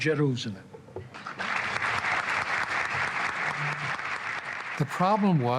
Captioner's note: audience applauding